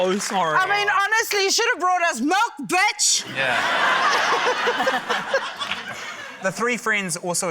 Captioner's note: laughter